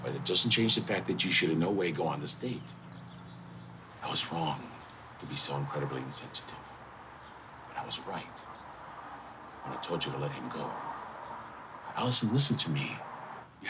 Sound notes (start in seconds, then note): none